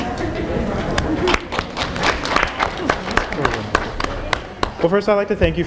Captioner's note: applause